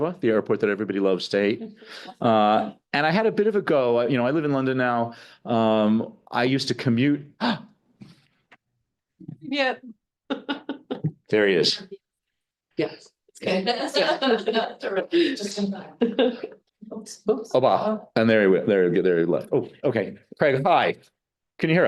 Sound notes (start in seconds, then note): 10.3 laughing; 13.5 all laughing